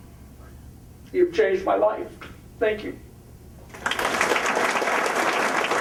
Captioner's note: applause